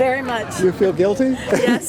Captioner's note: laughs